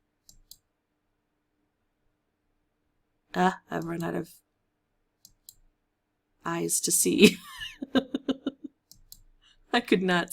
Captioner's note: giggle